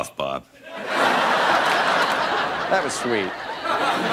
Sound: laughter

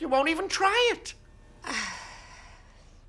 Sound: sighing

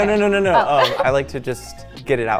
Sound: laughing

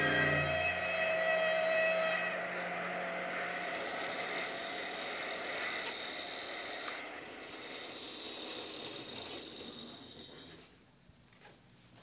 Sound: sound of machines and of knife being sharpened on stone

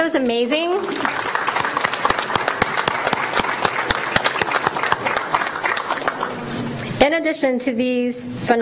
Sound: applause

